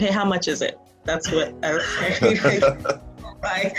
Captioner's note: laughs